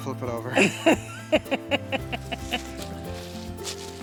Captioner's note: woman laughs